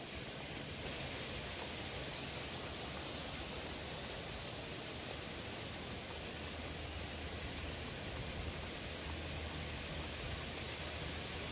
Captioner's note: rain Pouring